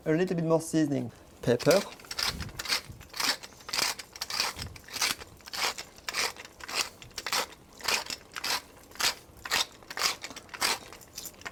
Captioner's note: grinding sounds